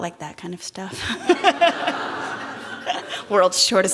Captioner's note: laughter